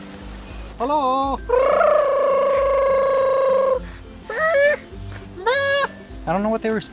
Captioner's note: making animal calls